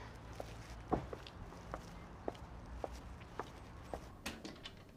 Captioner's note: footsteps thumping